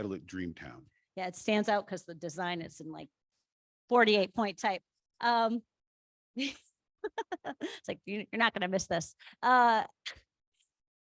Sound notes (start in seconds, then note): 7.0 laughter